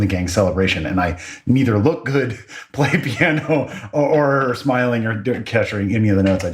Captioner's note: laugh